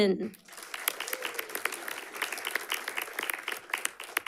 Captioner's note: audience clapping